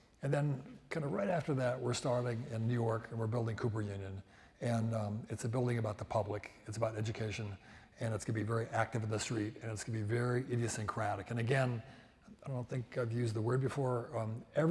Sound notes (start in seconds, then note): none